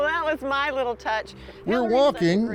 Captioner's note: laughing